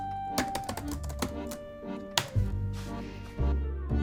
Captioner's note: typing